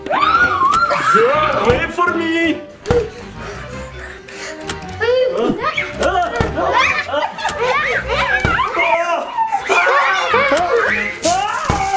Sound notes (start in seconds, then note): 2.9 children gasping; 3.9 screaming; 10.6 all screaming